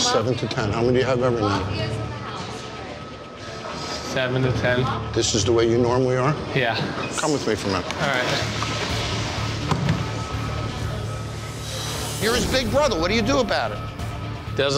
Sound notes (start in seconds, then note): 9.3 divider thumping